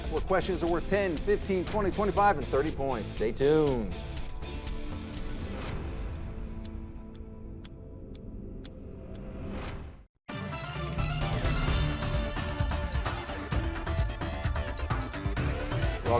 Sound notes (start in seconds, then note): 4.9 rock music; 7.1 clock ticking; 10.3 dramatic music